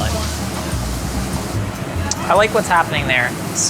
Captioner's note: food sizzles